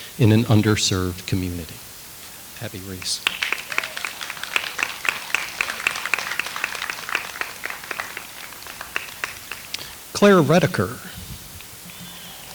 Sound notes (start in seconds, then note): 2.8 audience applauds